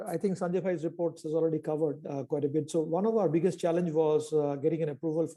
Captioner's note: hindi 00:41:04